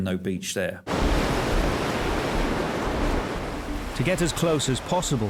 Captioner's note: waves crashing